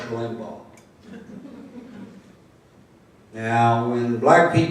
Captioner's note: laughter